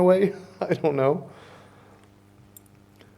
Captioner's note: chuckles